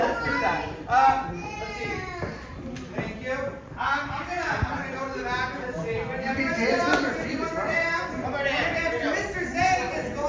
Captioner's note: commotion